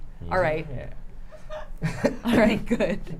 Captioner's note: laughing